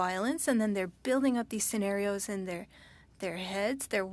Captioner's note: speaking French